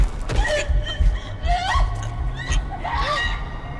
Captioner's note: sobbing